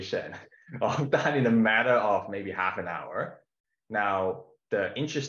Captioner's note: chuckles